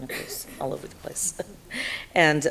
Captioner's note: laughs